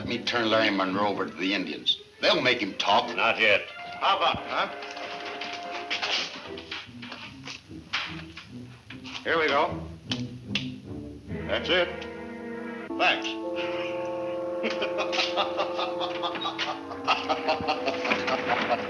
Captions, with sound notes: - Why not let me turn Larry Munro over to the Indians? They'll make him talk. Not yet. How about it, huh? here we go, that's it, thanks. (laughs)